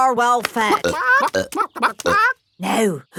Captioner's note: clucking